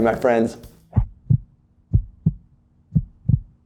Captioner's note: heart beat